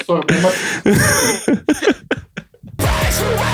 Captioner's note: laughter